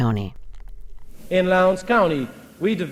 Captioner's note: soundbite of archived recording